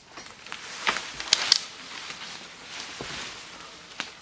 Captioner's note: leaves rustling